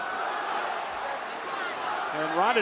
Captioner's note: crowd cheering